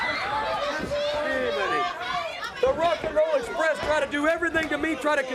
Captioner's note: crowd cheering